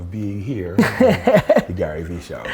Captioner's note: Gary laughs